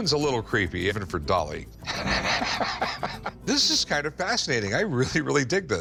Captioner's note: laughs